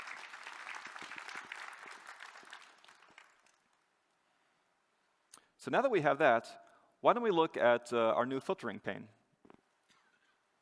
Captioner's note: applause